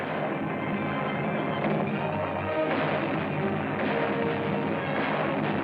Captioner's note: explosions